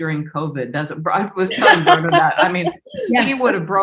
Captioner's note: laughs